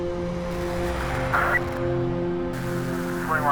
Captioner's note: radio crackles, blips